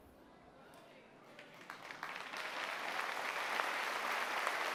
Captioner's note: applause